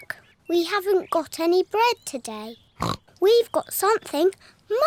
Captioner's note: snorts